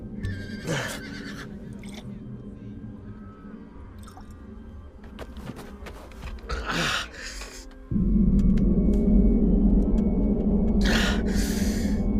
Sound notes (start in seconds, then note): 0.2 horses neighing; 6.6 cry of pain